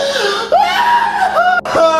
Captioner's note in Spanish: Gritando